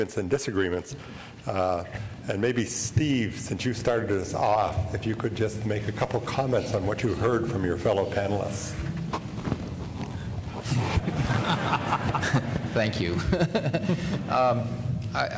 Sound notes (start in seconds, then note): 11.0 laughter